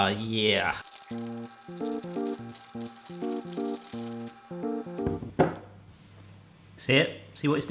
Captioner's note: paper crinkling; soft upbeat music